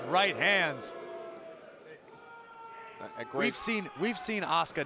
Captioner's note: crowd boos